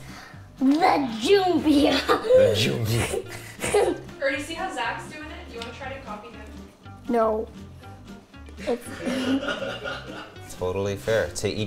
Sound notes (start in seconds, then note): 3.6 laughs; 8.6 laughter